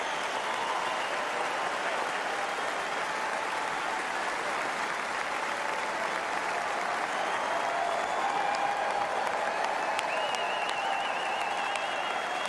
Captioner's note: applause